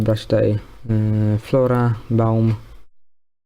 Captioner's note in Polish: perfect deutsch